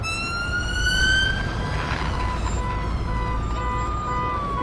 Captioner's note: siren wailing; horn honking